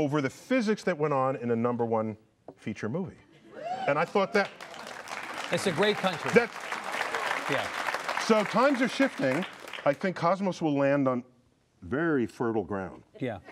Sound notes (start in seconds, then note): 3.5 cheers; 6.9 applause